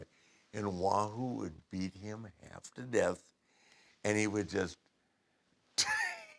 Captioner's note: laugh